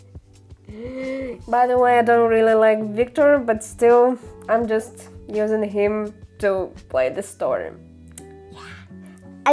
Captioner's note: sigh